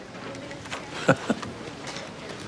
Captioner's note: chuckles